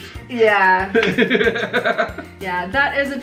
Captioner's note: laughs